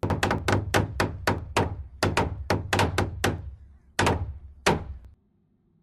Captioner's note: hammering